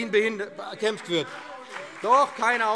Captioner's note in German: Beifall BÜNDNIS 90/DIE GRÜNEN und CDU - Lebhafte Zurufe DIE LINKE